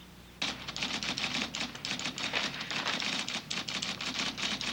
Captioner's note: typewriter clanking